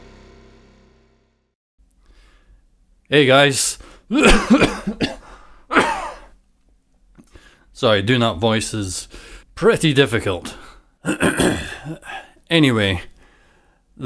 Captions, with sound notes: Hey guys [coughs] Sorry, doing that voice is pretty difficult. [clears throat] Anyway,